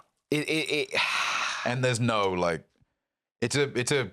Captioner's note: Jarvis sighs